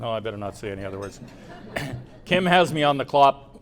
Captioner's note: laughter